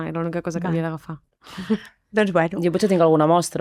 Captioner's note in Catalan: rialles